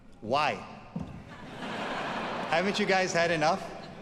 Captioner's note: audience laughs